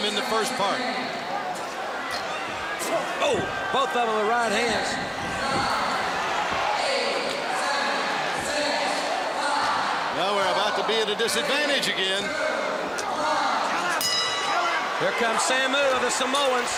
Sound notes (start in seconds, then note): 14.0 bell ringing